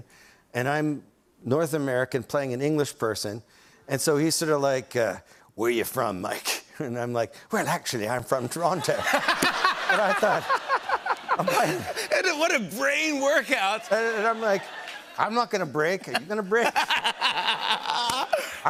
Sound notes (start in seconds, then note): 4.8 in character accent; 8.7 laughter